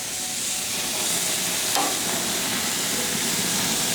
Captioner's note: pork sizzling